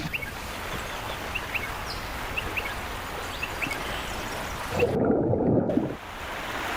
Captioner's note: birds chirping; water cascading